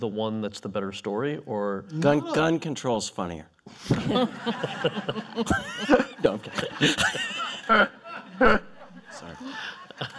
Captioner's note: laughter